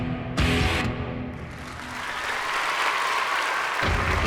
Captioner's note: cheering